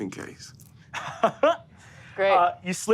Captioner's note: laughs